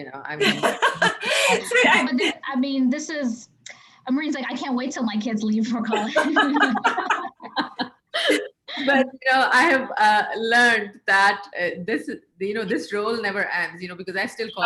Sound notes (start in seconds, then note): 0.4 laughing; 5.9 chuckling